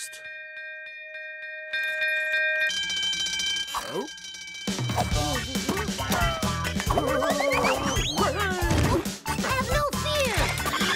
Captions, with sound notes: [bell ringing] [bell ringing] Have no fear!